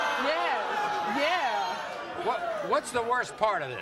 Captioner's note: audience jeering